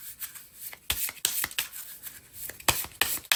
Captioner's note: drawing cards